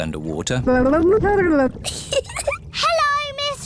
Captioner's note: gurgles; giggles